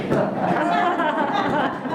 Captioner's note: laughter